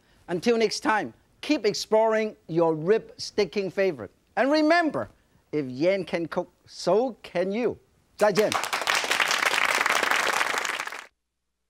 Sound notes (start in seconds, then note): 8.2 audience claps